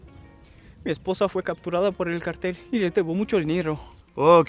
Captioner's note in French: parle espagnol